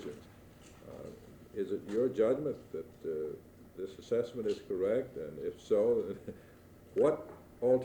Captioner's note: chuckles